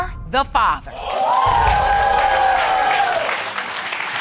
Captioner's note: cheering and applause